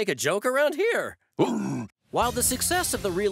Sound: worm grunting

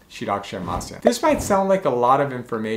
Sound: air whooshing

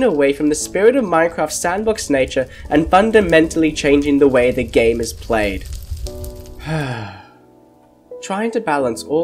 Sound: sigh

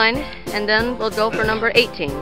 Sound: dad clears throat

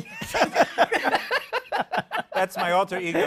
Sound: laughter

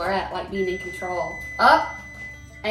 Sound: beep

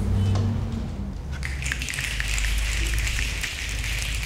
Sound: snapping

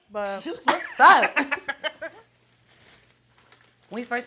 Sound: laughs

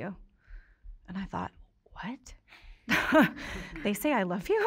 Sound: chuckles

